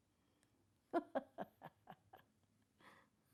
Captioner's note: laughter